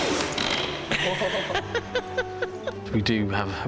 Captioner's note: woman laughing